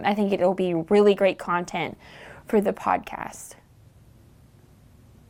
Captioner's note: none